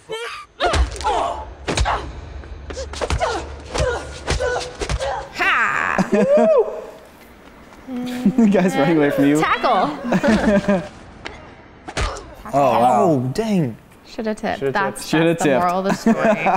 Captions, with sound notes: (noise of epic stunt battle) hah! the guy's running away from you and then.... Tackle! ow oooh dang should have tipped. that's the moral of the story